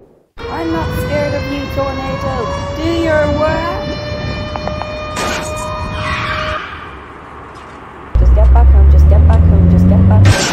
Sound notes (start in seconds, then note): 5.9 car zooms away; 10.2 crash!